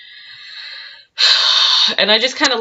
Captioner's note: sigh